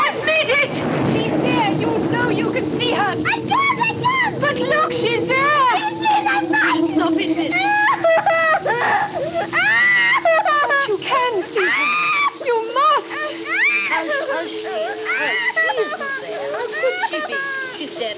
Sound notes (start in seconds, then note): 7.7 flora sobbing; 12.3 flora screaming